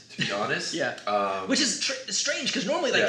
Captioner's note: laughs